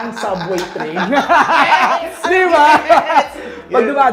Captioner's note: laughing